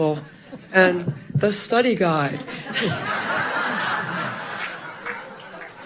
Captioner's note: audience laughing loudly